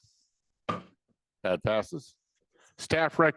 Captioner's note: gavel banging